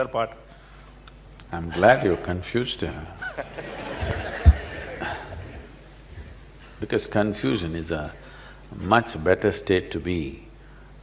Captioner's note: laughter